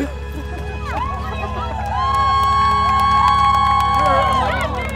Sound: cheering

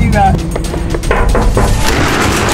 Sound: door bangs; door rattles

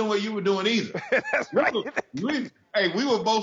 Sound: laughing

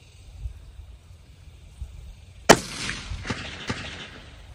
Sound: report of the rifle

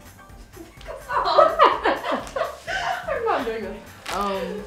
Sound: laughs

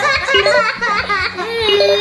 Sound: laughs; beeps

